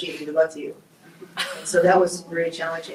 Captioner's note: group laughs